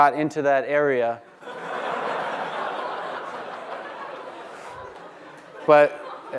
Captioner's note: laughter